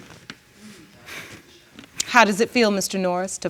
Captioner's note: exhales